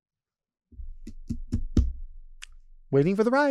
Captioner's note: speaker tapping table